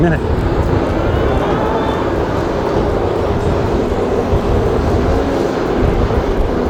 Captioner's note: twangy upbeat music; machine whirring